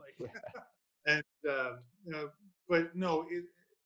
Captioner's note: laughs